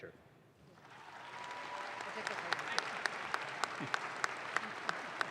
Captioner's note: audience claps